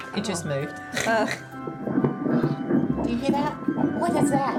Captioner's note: heartbeat thumps over ultrasound